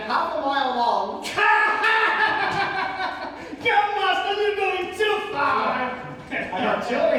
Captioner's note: laughing uproariously